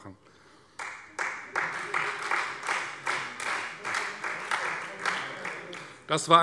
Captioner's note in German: Beifall Freie Demokraten